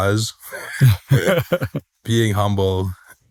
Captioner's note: laughter